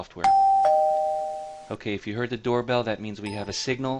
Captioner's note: doorbell sound plays